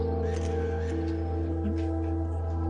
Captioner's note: camera shutter clicks